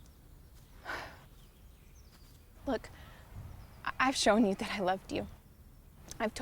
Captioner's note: sighs